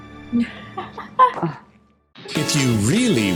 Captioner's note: person laughs